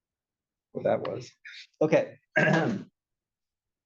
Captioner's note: cough